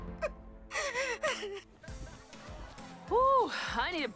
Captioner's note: Mischa cries